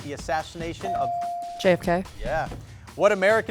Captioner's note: bell dings